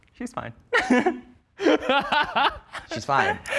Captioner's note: laughing